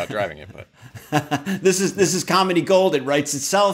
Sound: chuckles

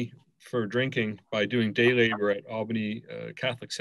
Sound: murmurs

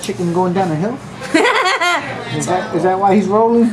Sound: laughs

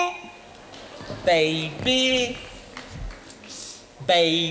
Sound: audience responds softly

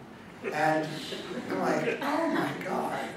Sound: audience laughing

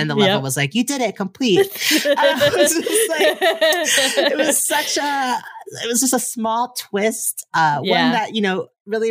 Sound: both laugh

